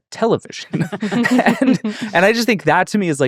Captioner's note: all laughing